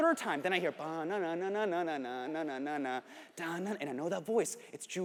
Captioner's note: hums